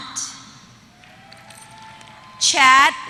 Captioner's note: applause